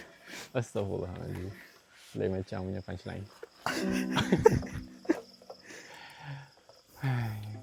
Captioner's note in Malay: ketawa